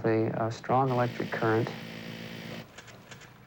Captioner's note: buzzing